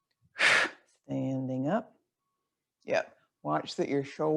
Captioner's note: exhales loudly